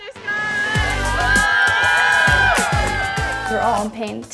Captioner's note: cheering